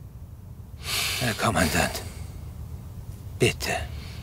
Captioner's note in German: Er seufzt